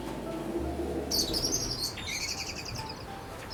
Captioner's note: birds Chirping